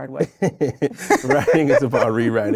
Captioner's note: both laughing